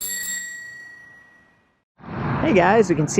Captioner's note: bell rings